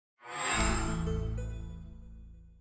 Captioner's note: chime